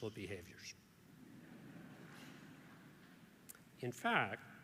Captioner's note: audience laughs